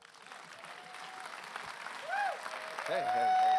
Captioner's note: applause